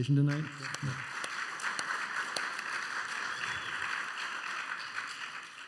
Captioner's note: applause